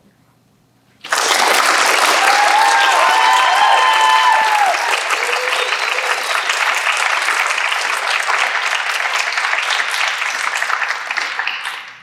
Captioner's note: applause